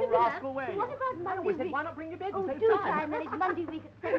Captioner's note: chattering